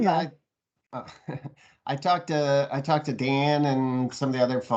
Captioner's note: chuckles